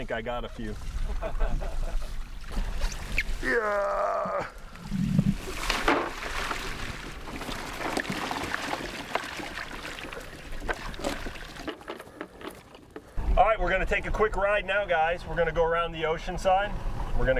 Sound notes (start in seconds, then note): 1.0 laughing; 3.4 grunting